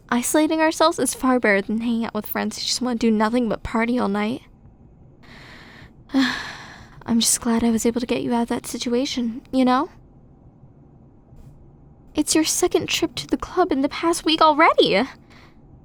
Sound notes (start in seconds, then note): 6.1 sigh